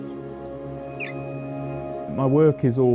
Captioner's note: chirping